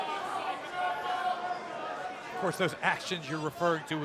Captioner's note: crowd chatter